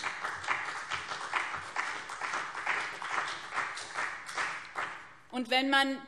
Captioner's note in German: Beifall BÜNDNIS 90/DIE GRÜNEN und CDU